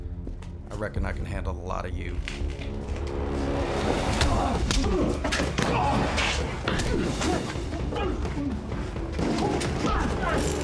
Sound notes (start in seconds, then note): 5.4 punch